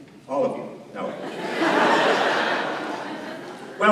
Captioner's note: laughter